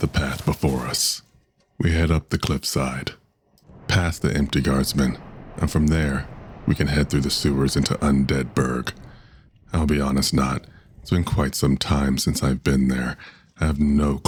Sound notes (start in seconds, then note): none